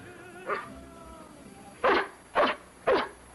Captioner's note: barking